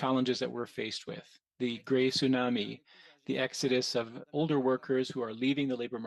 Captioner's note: speaking French